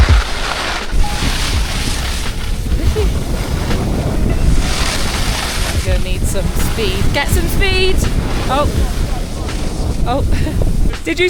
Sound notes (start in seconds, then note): 1.3 wind rushes